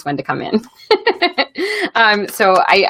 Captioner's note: laughs